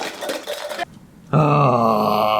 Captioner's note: shouting